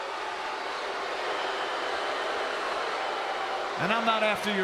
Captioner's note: crowd boos